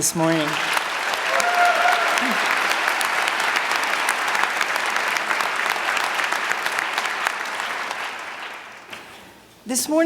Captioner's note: applause